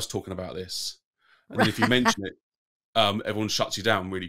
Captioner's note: laughs